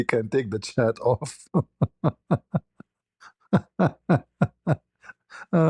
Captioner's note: ketawa